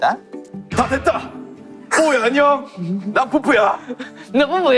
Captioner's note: Peupeu's manly voice